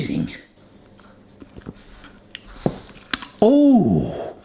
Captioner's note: lips smacking